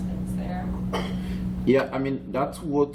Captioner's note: coughing